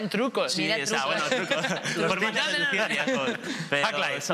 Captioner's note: laughs